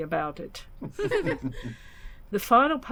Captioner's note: laughter